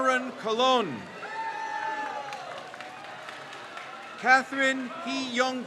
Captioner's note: crowd cheers